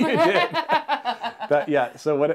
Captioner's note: laughs